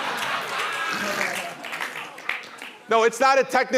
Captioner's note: laughter